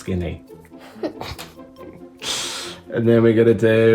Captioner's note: giggles